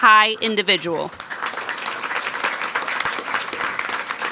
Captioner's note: people clapping